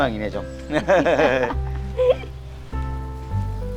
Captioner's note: both laughing